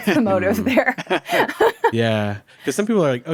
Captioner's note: group laughing